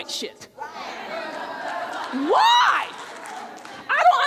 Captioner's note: audience cheering